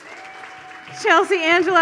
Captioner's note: audience applauds